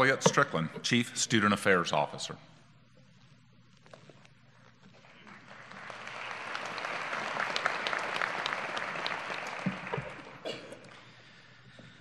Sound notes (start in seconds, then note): 1.5 applause